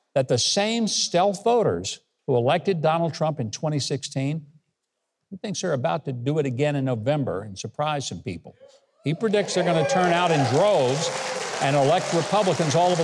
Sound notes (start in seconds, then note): 9.1 audience applauding